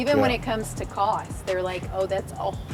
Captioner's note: laughs